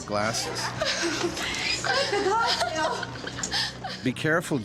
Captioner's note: laughing